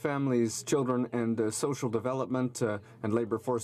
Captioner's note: speaking French